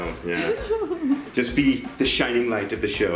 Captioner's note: mother Laughs